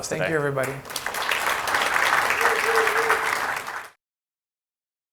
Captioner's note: audience clapping